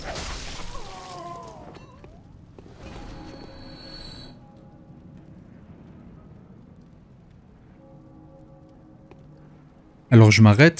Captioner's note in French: Bruits de cloches qui sonnent au loin